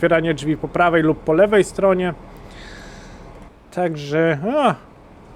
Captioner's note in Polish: westchnienie